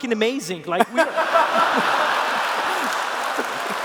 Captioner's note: laughter